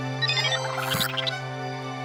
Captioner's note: beeping